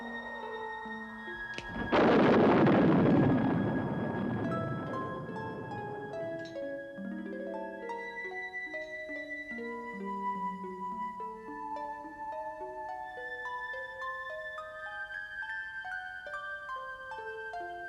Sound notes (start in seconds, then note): 1.5 snaps fingers; 1.5 thunder claps